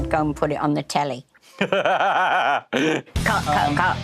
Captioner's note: laughs